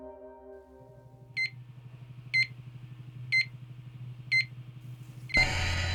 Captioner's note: laboratory machinery beeps; mysterious music